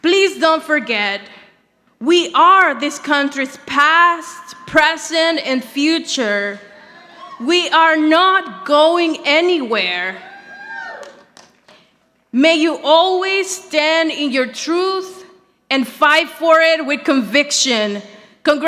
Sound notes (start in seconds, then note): 10.9 audience applauding